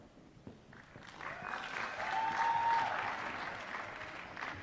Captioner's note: applause